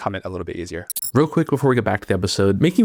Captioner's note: transition glitching